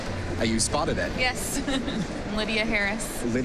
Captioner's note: chuckles